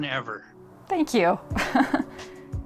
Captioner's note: giggles